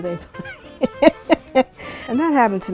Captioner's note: laughs